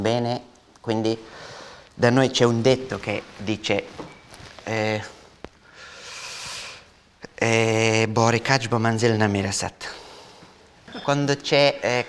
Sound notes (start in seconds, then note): 4.8 in Afghan